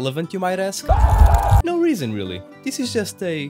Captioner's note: screams in spanish